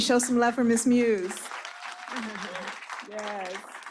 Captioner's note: applause